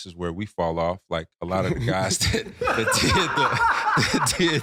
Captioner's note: laughing